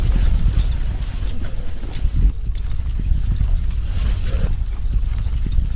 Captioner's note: wind blowing